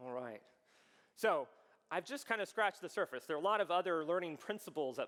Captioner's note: none